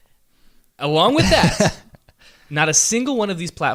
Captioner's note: laughs